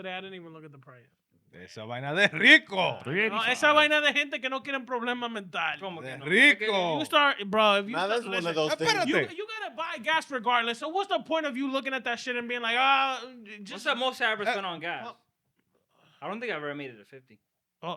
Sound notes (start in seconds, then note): 3.8 speaking In Foreign Language